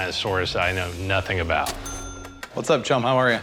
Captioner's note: cash register ring